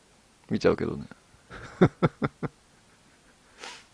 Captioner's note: laughter